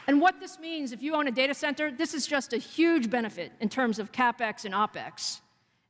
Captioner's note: applause